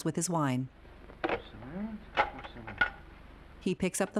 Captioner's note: phone clattering